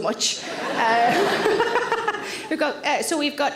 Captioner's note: all laugh